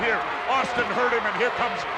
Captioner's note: audience chanting and clapping